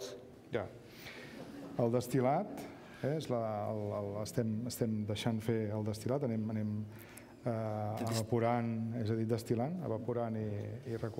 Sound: speaking catalan

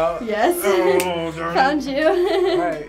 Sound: groans

